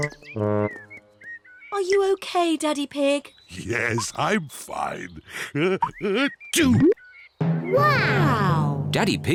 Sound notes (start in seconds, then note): 6.0 sneezes